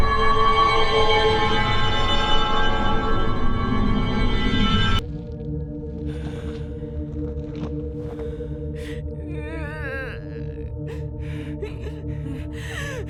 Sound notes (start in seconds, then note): 9.5 weeping